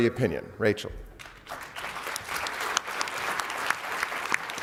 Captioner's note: applause